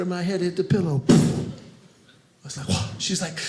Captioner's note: pop